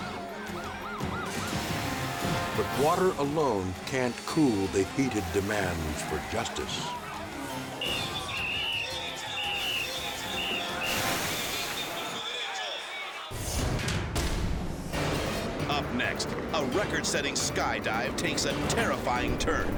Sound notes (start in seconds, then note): 7.6 tense music; 7.8 whistle blows; 13.4 light dramatic music